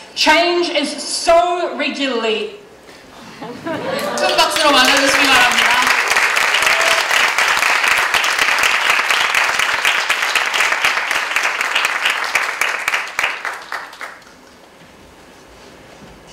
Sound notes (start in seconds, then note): 6.2 applause